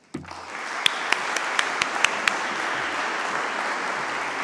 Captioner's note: audience applauds